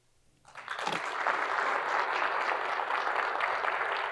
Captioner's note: audience claps